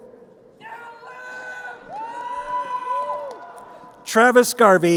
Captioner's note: crowd cheering